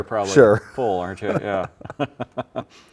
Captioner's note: both laughing